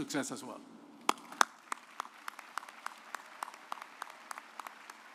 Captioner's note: audience applauds